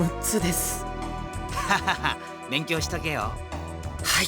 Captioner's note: laugh